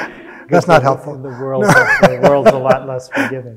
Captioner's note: audience laughing; laughs